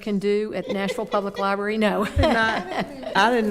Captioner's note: laughing